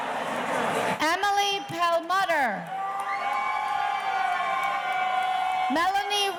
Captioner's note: audience cheering